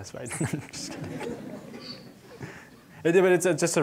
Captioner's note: audience laughing